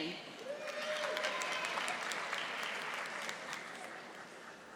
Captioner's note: audience applauding